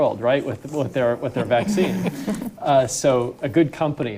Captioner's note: audience laughing